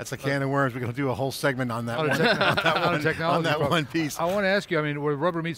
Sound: laughs

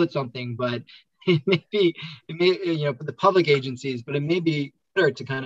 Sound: laughs

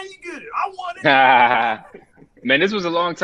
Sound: both laugh

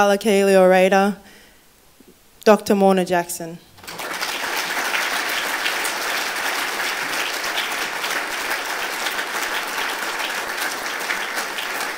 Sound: applause

